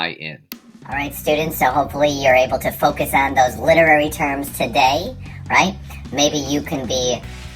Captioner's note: altered voice